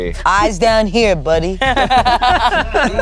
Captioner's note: everyone laughs